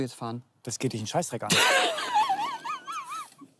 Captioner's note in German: lacht